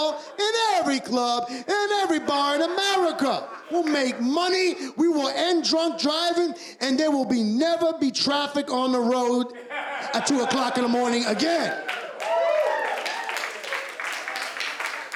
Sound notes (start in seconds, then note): 13.1 cheers and applause